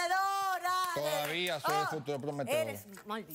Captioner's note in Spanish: aplausos